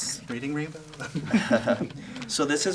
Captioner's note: laughter